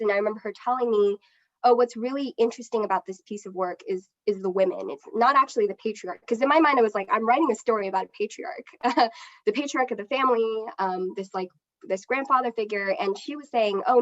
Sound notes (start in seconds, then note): 9.1 laughs